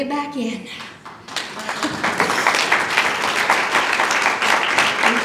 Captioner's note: applause